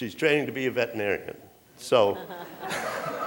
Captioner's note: laughter